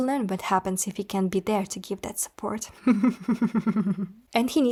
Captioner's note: evil giggling